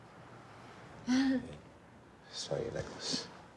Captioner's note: waitress chuckles